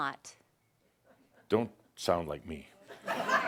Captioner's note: laughter